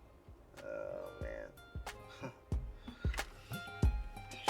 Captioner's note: laughs